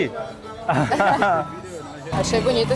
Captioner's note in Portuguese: risadas